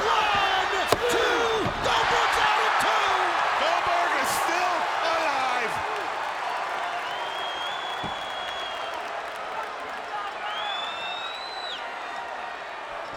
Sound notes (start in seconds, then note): 7.6 crowd cheering; 7.6 crowd whistling